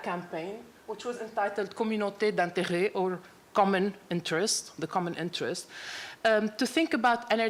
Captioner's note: french